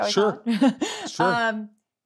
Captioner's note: laughs